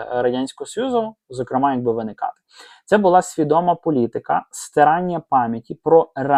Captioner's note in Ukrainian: сопіння